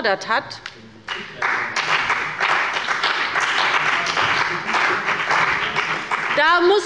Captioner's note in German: Beifall bei der CDU und dem BÜNDNIS 90/DIE GRÜNEN